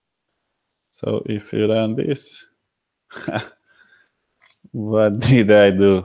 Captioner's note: laughs